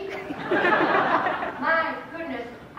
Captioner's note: laughter